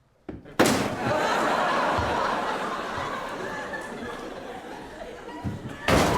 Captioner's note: audience laughing; chair thuds